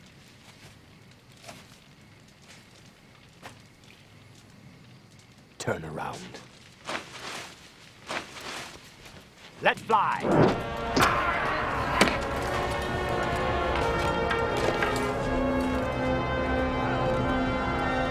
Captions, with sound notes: Turn around. (footsteps) Let fly! (arrows striking) (men screaming)